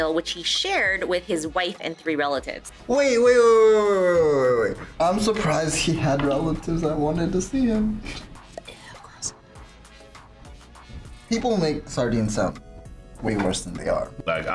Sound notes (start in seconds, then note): 8.5 whispers